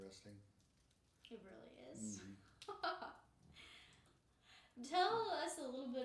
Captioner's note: laughing